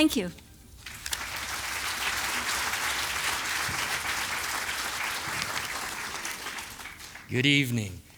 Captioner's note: applause